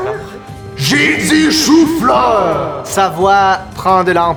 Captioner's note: monstrous voice